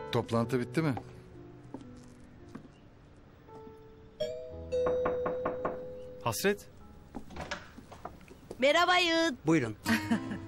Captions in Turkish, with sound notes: Toplantı bitti mi? [Kapı zili çalıyor] Hasret? Merhaba. Buyurun.